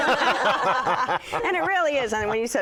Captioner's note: all laugh